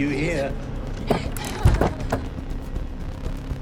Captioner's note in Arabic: تمتمة آنا; تبكي